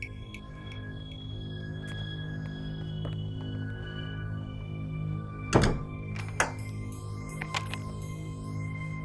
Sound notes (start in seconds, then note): 6.1 locks clicking